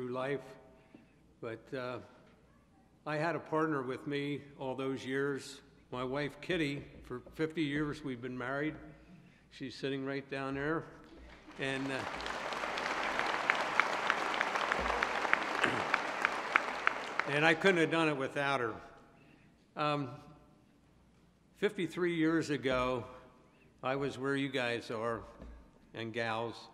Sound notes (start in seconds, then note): 11.0 applause